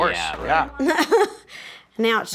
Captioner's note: laughs